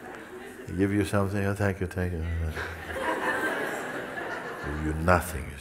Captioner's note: laughter; mimics discontent